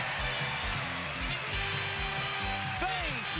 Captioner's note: cheers and applause